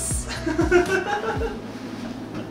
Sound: laughing

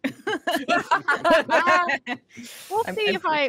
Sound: group laughing

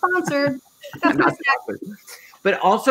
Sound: laughing

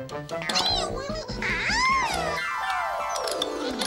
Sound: squabbling

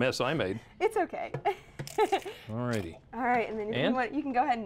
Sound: laughter

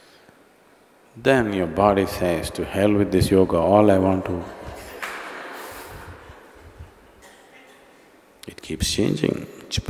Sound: few laugh

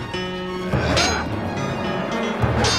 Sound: yelling; metal clanging

